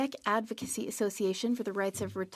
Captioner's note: speaking French